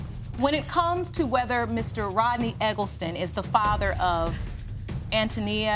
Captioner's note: none